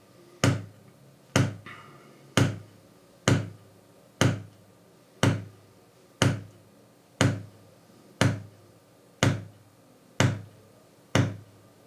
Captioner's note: hammering